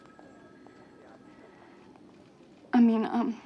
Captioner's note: phone ringing